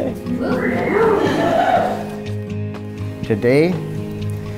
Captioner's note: guests cheering